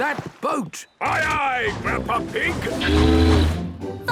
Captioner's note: tooting; all singing